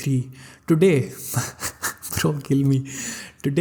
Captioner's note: laugh